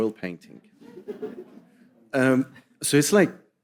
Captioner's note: audience chuckling